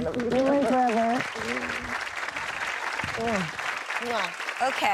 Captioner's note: audience applauds